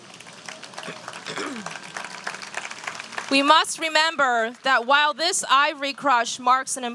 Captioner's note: applause